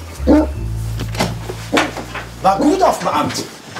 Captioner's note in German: Bellen von draußen